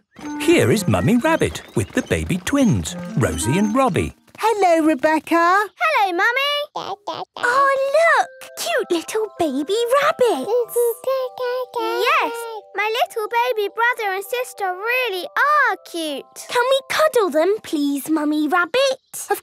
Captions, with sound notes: - Here is Mummy Rabbit with the baby twins, Rosie and Robbie. - Hello Rebecca! - Hello Mummy! - (babbling) - Ahh look! Cute little baby rabbits! - Goo! Goo! Gaa! Gaa! - Yes, my little baby brother and sister really are cute! - Can we cuddle them please, Mummy Rabbit?